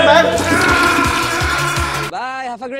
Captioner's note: toilet flushing